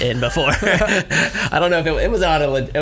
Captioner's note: laughs